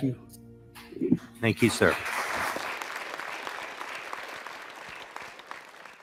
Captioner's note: audience clapping